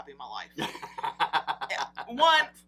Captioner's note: laughs